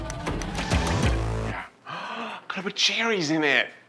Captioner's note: gasps